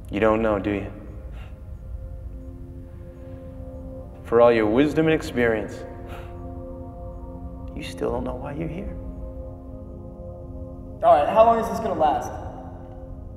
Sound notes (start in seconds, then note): 7.1 scoffs